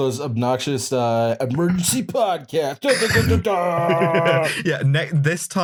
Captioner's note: radio DJ voice